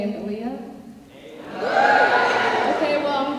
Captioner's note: cheering